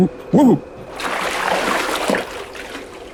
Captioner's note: loud Splash